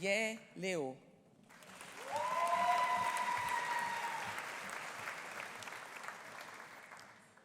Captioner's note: audience applauding; audience cheering